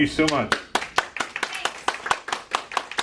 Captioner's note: clapping